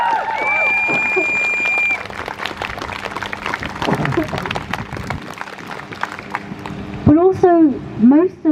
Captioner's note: crowd Cheers